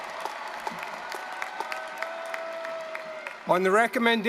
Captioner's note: applause